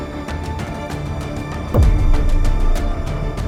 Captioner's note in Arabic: دوي انفجار; تستمر الموسيقى الدرامية